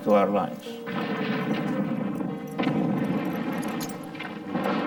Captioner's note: explosions blasting